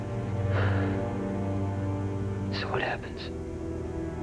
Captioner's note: sighs